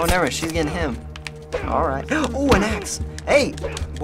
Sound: Joel grunts; gasps

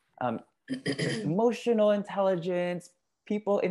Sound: cough

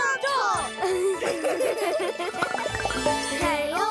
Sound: all giggling

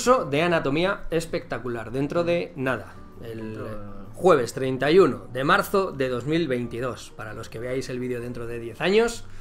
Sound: only in spanish

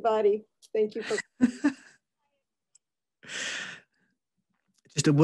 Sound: giggles

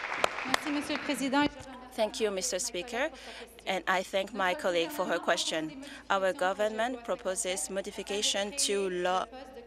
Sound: applause

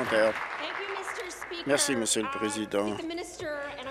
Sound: applause

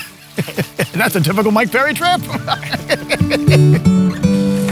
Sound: laughing; laughs

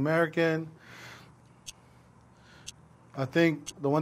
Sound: timer ticking

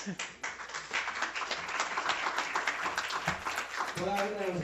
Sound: applause

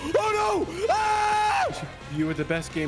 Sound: screams

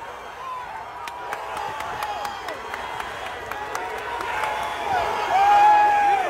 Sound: crowd chant and clap

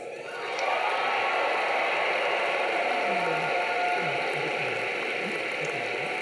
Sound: audience cheering; audience clapping

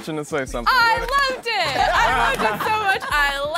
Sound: laughing

